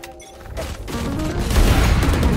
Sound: blades swooshing; gun bangs

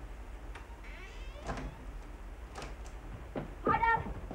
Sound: door creaks

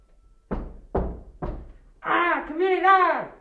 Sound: foot stomps

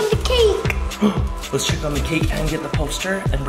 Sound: gasps

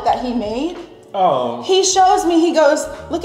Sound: groaning

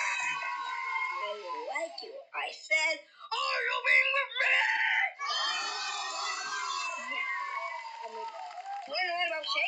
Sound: kids Cheering; kids Cheering

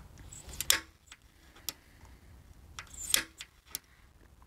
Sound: center punch tool clicking

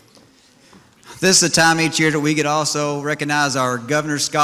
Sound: none

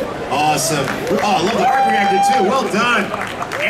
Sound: audience cheering

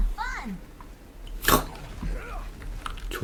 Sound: chuckle

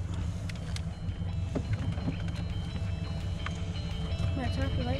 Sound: fish splashing

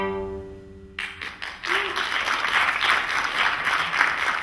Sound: audience applauding

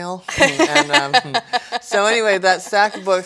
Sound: laughs

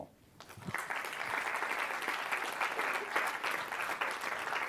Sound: applause

